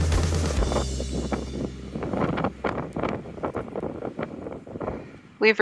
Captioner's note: strong wind blowing